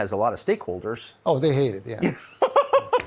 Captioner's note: tucker laughs